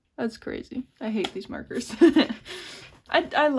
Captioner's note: laughs